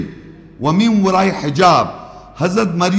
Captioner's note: Arabic